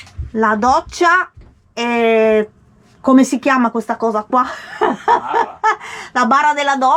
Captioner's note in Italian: risate